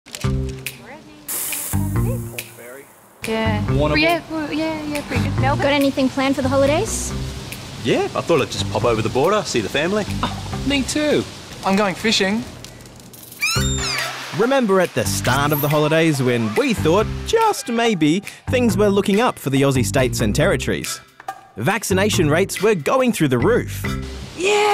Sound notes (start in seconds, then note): 13.4 gull caws